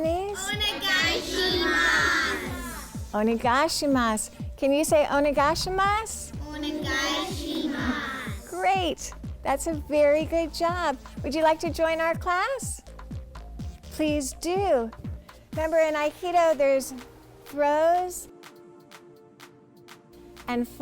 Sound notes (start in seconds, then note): 3.7 foreign language 00:04:29; 5.2 foreign language 00:04:31; 7.0 foreign language 00:04:32